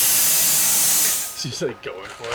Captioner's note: machine stops